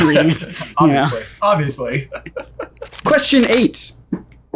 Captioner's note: laughing